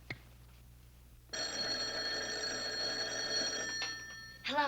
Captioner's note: phone rings